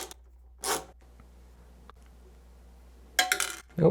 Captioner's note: ratchet noises; bit falls